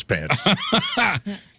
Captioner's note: laughing